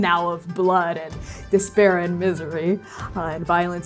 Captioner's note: sharp inhale